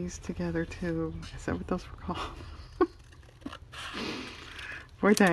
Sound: laughs

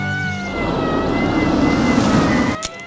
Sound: police sirens blaring

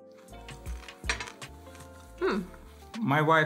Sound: ant crunching

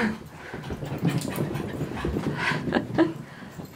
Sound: dogs running on wood floor; laughing

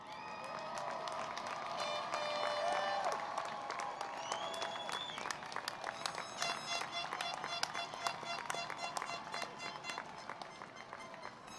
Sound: cheering and Applause

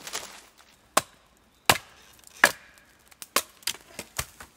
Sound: banging wood

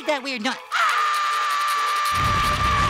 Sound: screaming

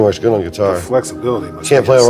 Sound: voiceover

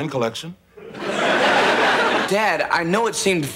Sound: audience laughing

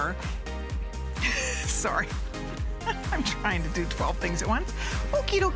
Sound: laughter

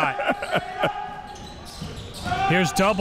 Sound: laughs

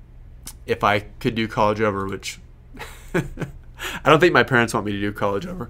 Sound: laughs

